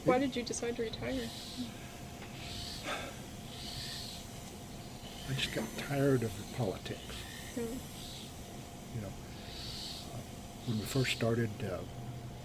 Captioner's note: BOTH laugh